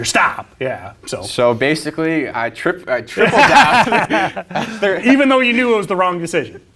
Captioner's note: both laugh loudly